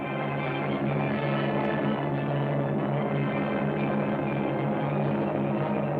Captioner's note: airplanes rumbling